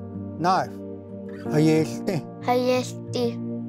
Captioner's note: repeats in Cherokee